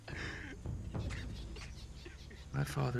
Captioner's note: crying